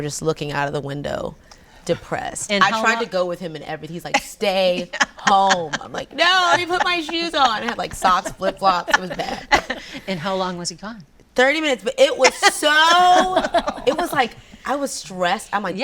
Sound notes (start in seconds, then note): 9.7 laughs